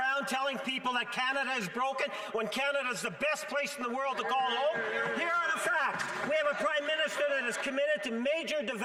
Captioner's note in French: voix de l'interprète